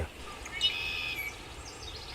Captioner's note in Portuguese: Canto dos pássaros